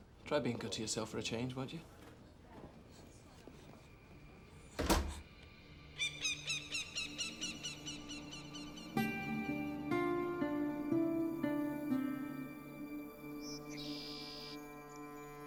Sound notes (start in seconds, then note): 4.7 door closes; 5.9 bird squawking; 12.8 birds chirping